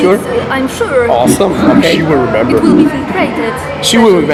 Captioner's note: sound of interview